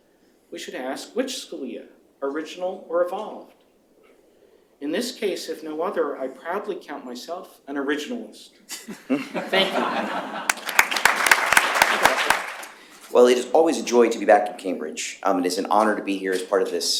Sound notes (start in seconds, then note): 8.6 applause; 8.6 laughter